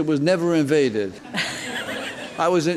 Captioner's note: crowd laughs